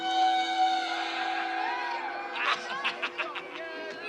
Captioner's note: man laughing